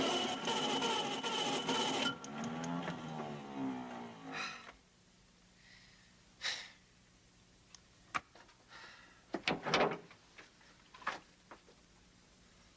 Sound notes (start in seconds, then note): 0.0 engine loudly rumbling; 4.3 man sighing